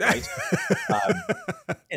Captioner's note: laughing